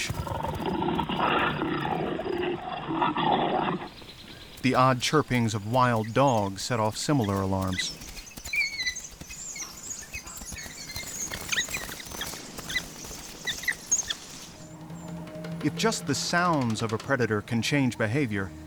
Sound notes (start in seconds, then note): 0.0 growling continues; 7.7 dogs whining on recording